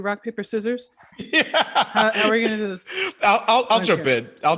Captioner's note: laughing